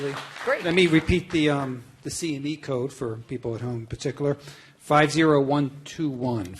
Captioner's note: applause